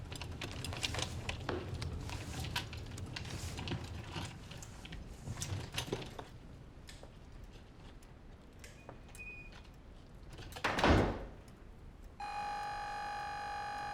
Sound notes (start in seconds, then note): 10.6 door shuts; 12.2 door bell ringing